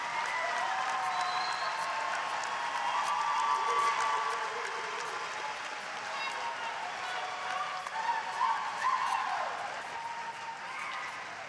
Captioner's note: applause